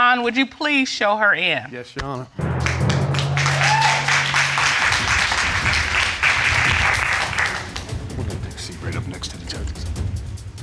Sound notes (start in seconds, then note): 2.6 applause